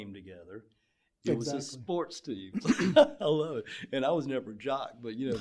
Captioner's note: laugher